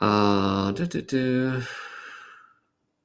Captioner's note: humming